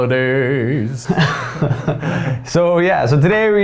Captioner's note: laughing